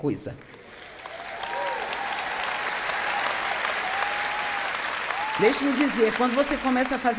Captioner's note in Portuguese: audiência aplaude